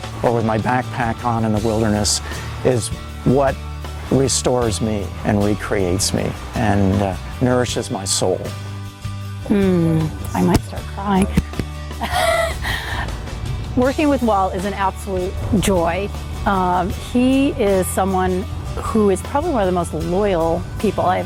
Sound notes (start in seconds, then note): 12.0 laughs